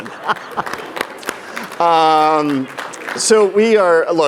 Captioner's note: laughing; clapping